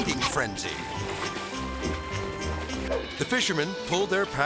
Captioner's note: melodic music; air swoosh